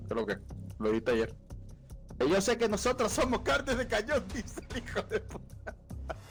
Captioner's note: laughs